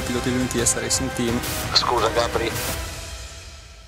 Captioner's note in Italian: Via radio